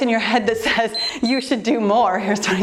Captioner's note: timer beeps